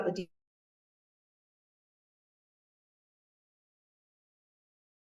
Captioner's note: sound cuts out